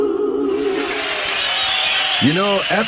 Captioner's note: applause